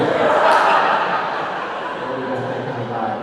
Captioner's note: audience laughing